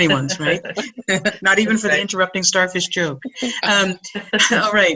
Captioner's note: laughing